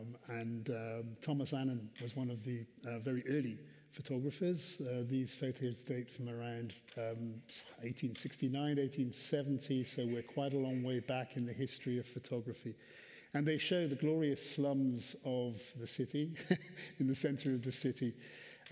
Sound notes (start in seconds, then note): 16.3 chuckles